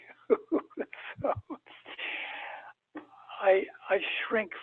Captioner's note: chuckles